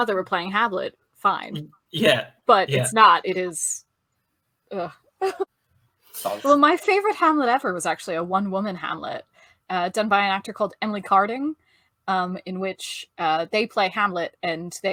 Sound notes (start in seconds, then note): 4.9 groan